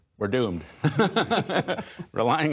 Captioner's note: laughter